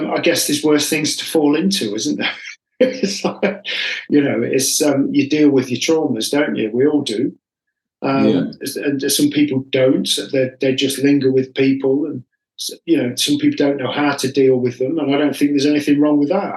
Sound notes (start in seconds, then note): 2.8 laughs